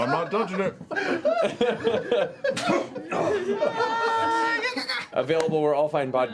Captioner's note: laughter